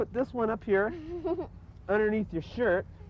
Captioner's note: laughter